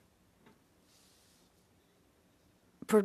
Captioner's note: speaking French